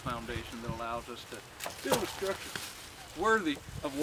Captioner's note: wood thudding